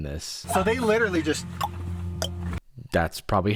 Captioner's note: clicks tongue